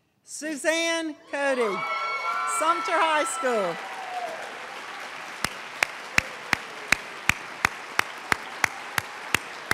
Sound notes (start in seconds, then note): 3.6 cheering; 5.6 applause